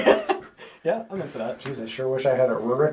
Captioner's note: all laugh